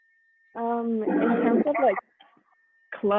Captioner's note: static